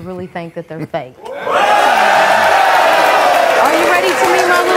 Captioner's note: audience clapping